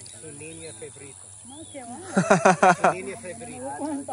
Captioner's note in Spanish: risas